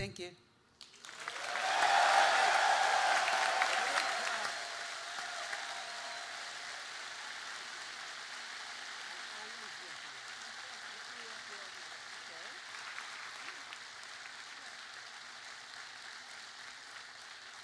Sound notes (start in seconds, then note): 2.0 applause